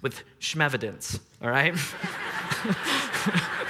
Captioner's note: laughs